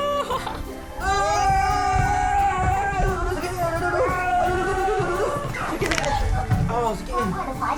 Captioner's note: scream